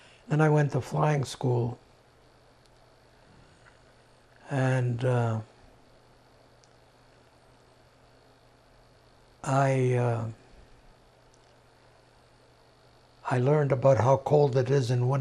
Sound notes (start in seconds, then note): 3.8 pauses 8 seconds